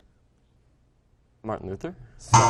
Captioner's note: error buzzer